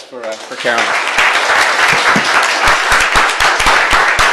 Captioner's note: applause